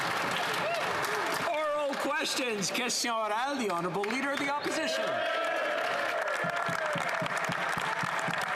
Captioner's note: some Applause